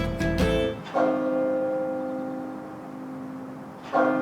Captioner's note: bright music; bell clanging